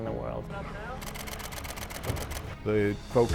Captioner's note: camera shudder clicking